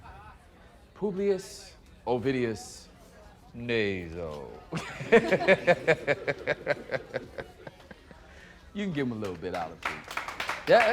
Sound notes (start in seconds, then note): 4.7 laughs; 8.8 applause